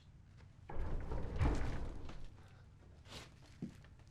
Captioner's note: vibrating